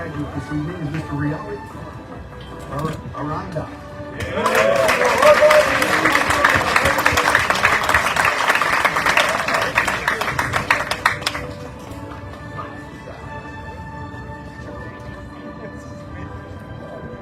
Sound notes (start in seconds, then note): 4.2 audience cheering, applauding